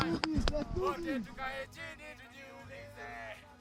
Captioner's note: chanting